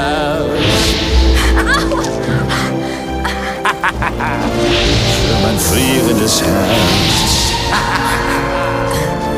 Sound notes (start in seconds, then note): 5.9 Feuermann lacht; 7.4 Feuermann laughs